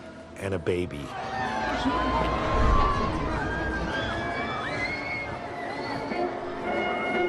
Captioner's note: crowd Noise